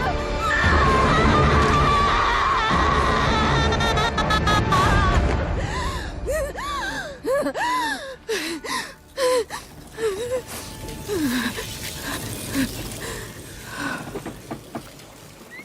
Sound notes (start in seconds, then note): 4.0 Neyrelle screaming; 9.0 gasping and sobbing